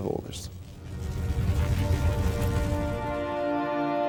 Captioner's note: fire crackling